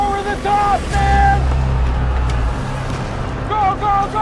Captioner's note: shouting